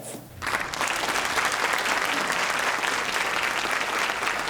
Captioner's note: audience applauding